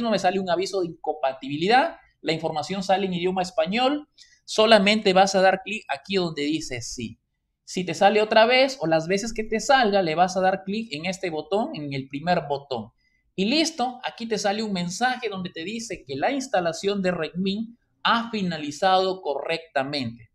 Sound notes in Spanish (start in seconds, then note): 6.5 en español